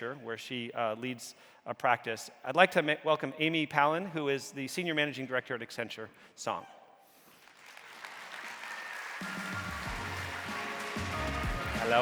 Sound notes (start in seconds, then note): 7.3 audience applauding; 9.2 bright music